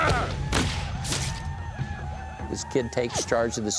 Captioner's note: gunfire